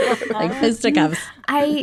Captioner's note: laughing